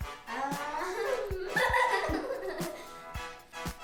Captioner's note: laughing